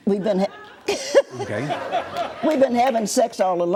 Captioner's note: audience laughs